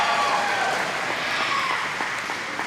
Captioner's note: applause